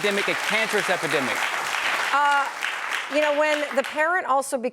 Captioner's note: applause